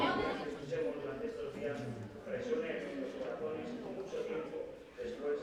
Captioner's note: backstage ambient sound